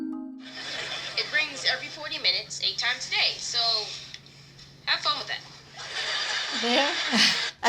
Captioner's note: laughter